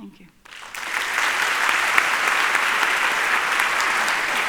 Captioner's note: applause